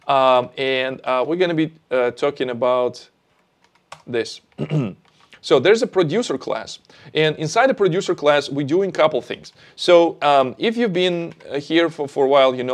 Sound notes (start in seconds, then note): 4.5 clears throat